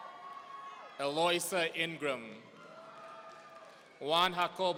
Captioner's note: audience cheering